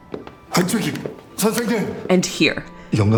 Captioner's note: Gi-hun speaks in Korean